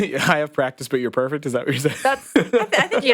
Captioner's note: laughs